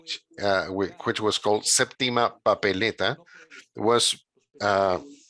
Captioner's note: speaking in a foreign language